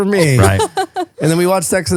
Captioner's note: laughing